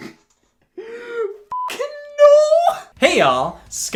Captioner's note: beep